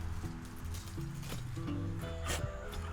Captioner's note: wood snaps; wood scrapes